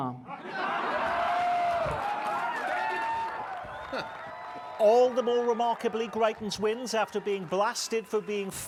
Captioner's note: laughter